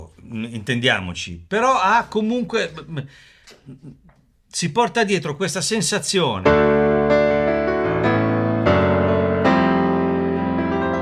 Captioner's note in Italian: risate